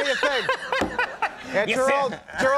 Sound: Conan laughing

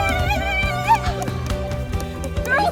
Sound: clapping along

